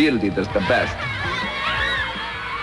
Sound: kids laughing

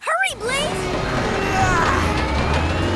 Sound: grunting

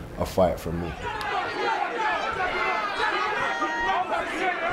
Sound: crowd shouting

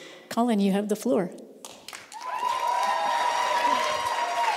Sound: applause

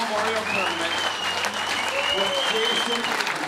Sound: cheering

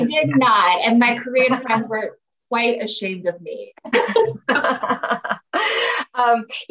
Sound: laughs

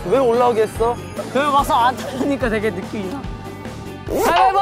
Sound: crying a river of regret

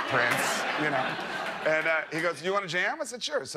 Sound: laughter

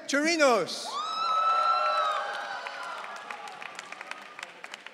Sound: audience cheering

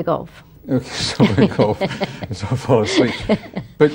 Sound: laughs

